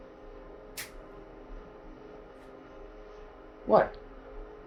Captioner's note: snaps fingers